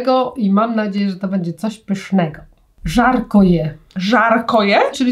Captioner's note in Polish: rosyjski